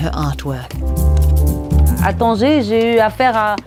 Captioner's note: non english speech